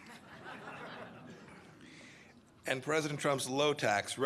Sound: laughter

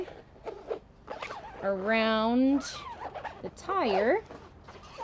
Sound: tire squeaking

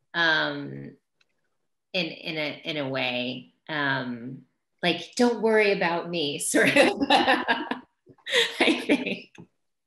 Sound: laughs

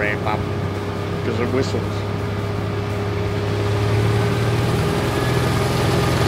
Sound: train engine revving

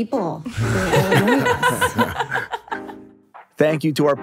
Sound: laugh

